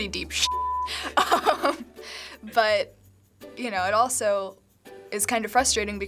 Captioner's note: laughing